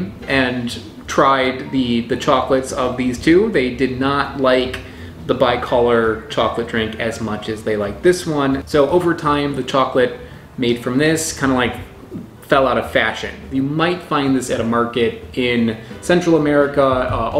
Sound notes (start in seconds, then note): none